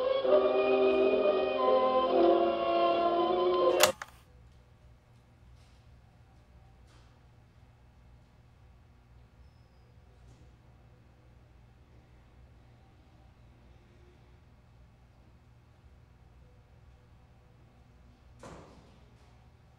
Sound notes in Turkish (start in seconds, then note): 6.7 Sessizlik